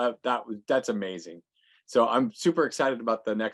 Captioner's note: none